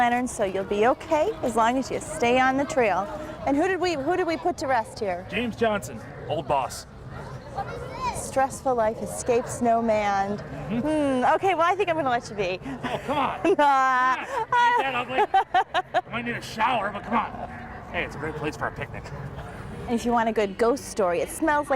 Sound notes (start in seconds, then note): 12.7 laughter